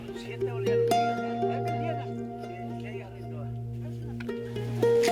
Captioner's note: people chattering